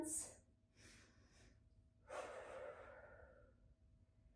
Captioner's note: breathing deeply